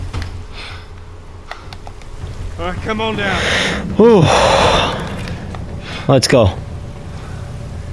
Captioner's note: ohh